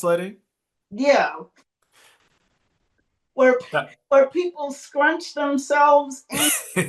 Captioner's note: laughs